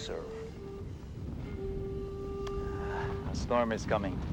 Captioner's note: thunder rolling